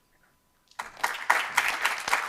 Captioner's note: applause